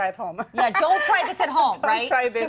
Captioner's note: laughing